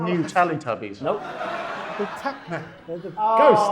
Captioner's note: audience laughing